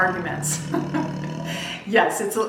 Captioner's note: laughs